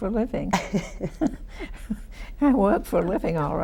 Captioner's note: women laugh